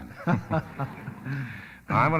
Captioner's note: laughing